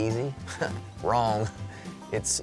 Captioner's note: laughs